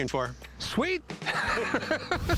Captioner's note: laughs